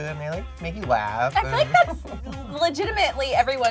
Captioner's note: laughs softly